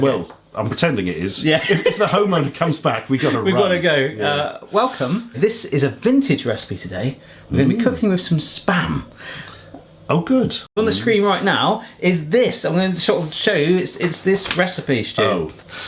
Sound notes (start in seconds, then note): 3.1 laughing